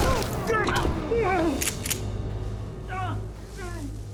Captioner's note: thud, groans; GUNS CLICK,</i> <i> MAN WRITHES ON GROUND